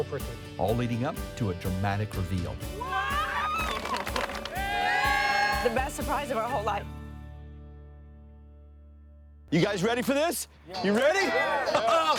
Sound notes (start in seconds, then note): 2.7 cheering